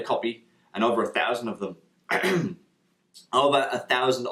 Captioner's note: clears throat